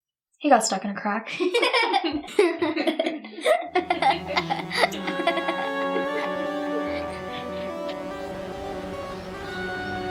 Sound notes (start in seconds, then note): 1.3 Esther and grace laughing; 5.6 dramatic music